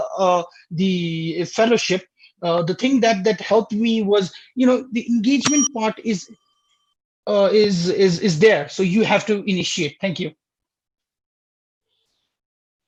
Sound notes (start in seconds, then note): 5.4 bell dinging